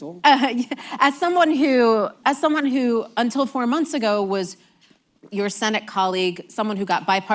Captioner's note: laughs